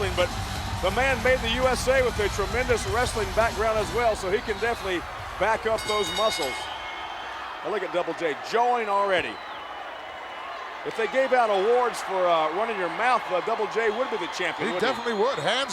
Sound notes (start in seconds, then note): 9.4 applause